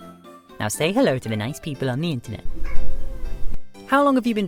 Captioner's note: meow